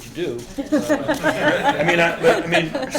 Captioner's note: laughter